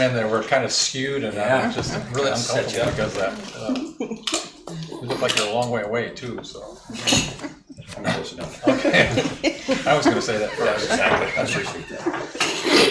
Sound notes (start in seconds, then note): 9.8 laughing